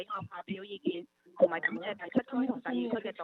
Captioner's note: speaks non-English language